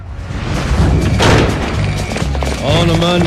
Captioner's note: alarm buzzing